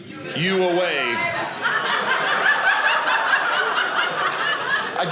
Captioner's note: audience laughing